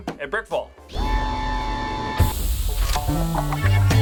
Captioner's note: closing doors whir